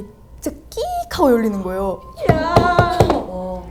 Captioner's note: creeeeak